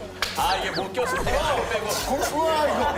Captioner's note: quietly laughing